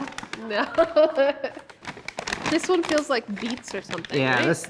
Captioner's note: laughs